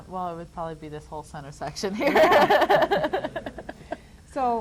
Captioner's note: laughs